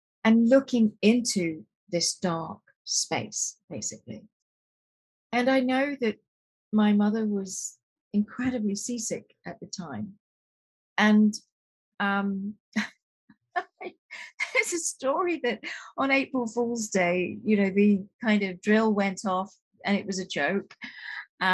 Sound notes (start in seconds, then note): 11.4 laughing